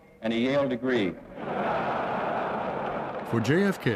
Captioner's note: audience laughing